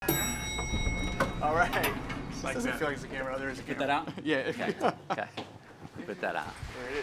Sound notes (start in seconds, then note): 0.0 elevator bell dings; 3.7 chuckles; 3.8 Timothée laughs